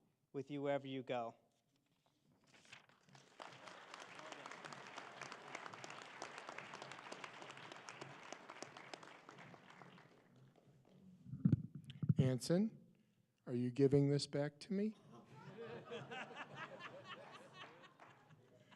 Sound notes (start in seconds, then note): 5.7 applause